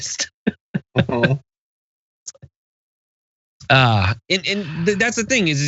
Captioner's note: laugh